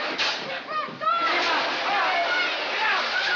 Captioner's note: shouting